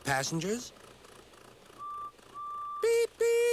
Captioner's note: James hoots